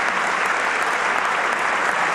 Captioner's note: applause